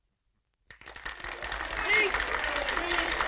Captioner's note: applauding